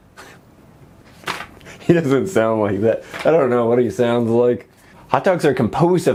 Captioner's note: chuckling